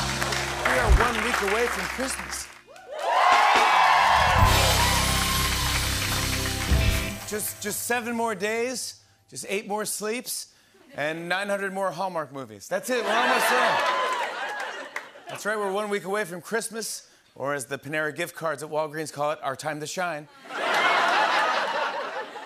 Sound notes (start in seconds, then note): 0.0 cheers and applause; 2.6 cheers and applause; 20.3 laughter